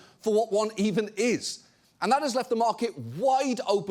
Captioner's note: none